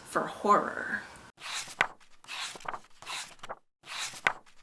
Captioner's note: pages turning